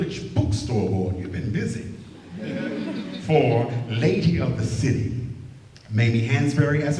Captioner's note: laughter